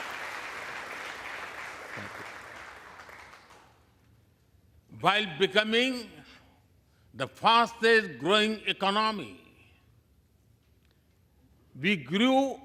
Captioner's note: applause